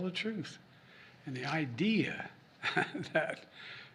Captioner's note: laughs